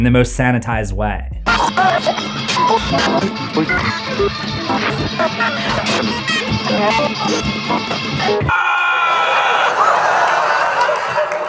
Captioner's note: laughter